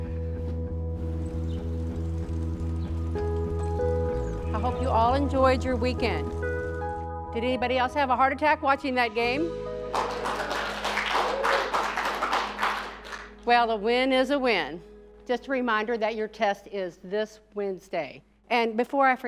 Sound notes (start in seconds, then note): 0.2 pleasant electro rock music; 9.9 students clapping